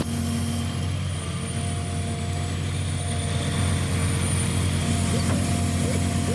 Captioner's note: motor whirring